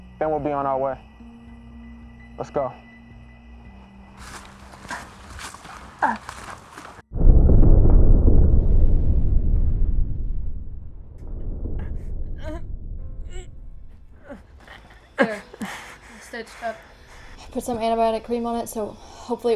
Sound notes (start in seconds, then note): 4.0 dark ominous music fades out; 7.1 thunder; 11.3 sad music starts